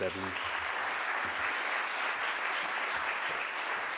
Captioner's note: crowd applauds